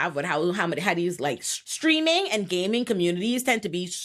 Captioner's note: none